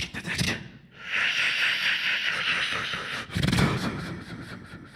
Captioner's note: beatboxing